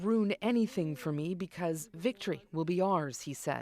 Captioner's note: speaking alternate language